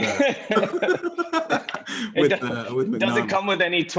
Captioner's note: laughing